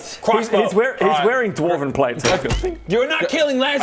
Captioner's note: ting!